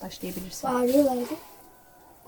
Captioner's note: jackals howling